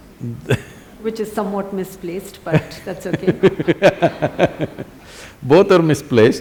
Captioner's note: laughs; both laugh